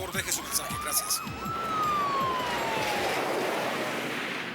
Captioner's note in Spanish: Sirenes tocando